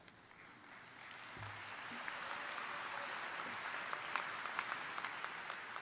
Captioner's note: audience applauding